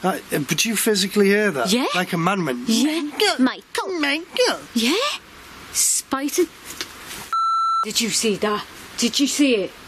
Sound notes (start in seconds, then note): 6.8 camera beeps